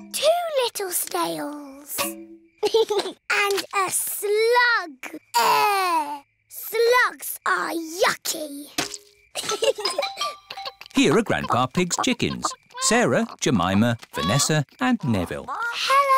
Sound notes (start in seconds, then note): 2.0 george giggles; 9.3 both giggle